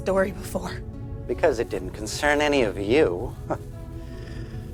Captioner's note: scoffs